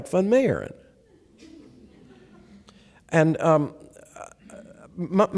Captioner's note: laughter